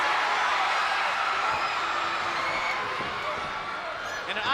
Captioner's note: spectators cheering